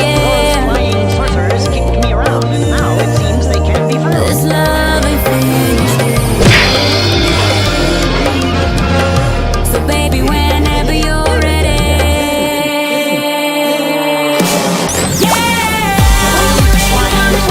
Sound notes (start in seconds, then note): 6.4 smack!; 10.0 Bric & Brac Laugh